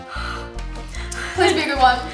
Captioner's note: heavily exhaling